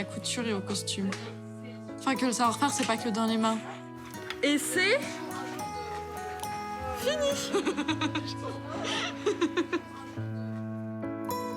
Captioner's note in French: rires